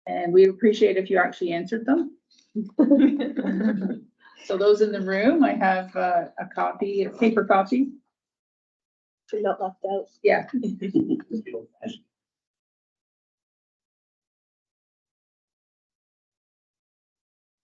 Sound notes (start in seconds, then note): 9.4 speaks faintly